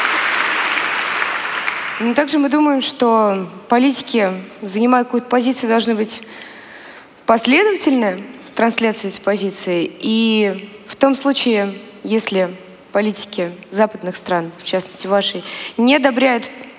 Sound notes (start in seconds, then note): 0.0 laughter and Applause; 1.9 foreign Language